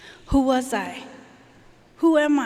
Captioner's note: none